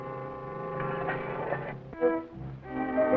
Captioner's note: dramatic music; metallic scraping; dramatic music